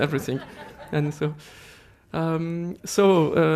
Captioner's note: laughter